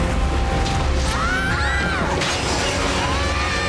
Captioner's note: screaming